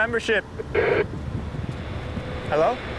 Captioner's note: radio crackling